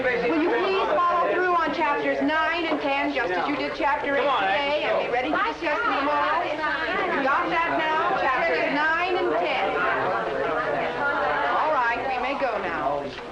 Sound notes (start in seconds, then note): 4.8 students chattering; 9.9 students chattering